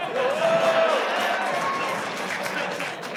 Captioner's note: audience laughter; audience applause